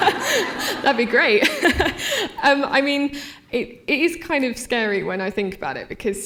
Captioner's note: laughter